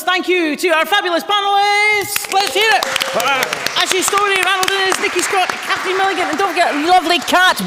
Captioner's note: applause